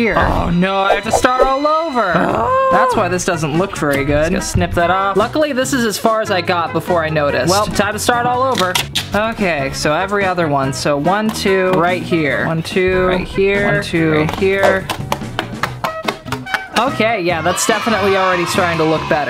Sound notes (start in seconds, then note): 2.2 moans